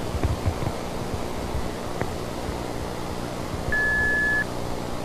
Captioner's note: static hissing